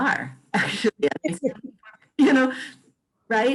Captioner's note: laughs